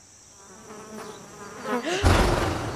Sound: buzzing; blowing

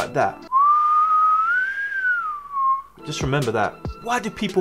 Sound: whistles

